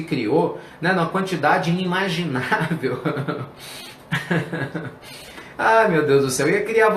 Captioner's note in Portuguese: risos